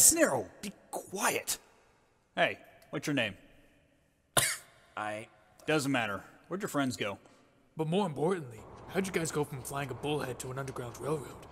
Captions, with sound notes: Nero, be quiet. Hey, what's your name? *cough* I- Doesn't matter. Where'd your friends go? But more importantly, how did you guys go from flying a bullhead to an underground railroad?